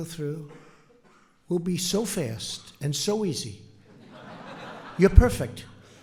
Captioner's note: laughter